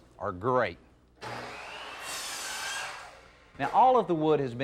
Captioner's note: wood saw buzzing